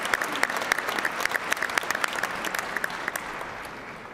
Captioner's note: applause